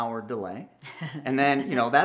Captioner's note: laughs